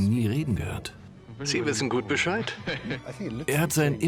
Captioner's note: laughs